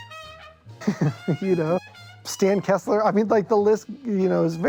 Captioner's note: laughs